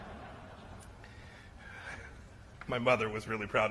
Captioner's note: laughter